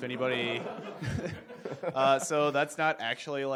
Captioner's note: audience laughs